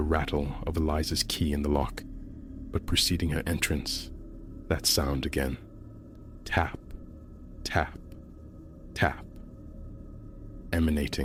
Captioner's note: tap… tap… tap